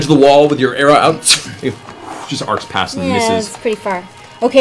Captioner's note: arrow whoosh